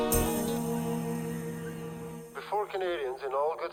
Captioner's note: gulls caw